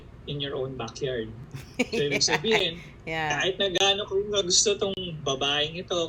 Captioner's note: laughter